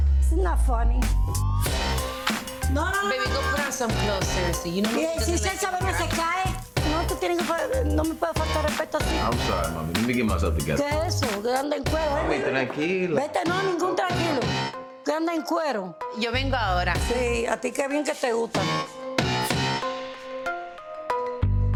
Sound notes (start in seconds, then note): 1.7 lively upbeat music; 4.7 mother speaking foreign language; 11.0 mother speaking foreign language; 12.4 speaking foreign language; 13.6 mother speaking foreign language; 16.3 speaking foreign language; 17.5 mother speaking foreign language